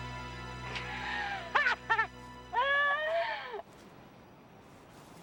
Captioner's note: Taryn laughing